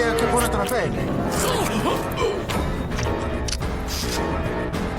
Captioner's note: gasps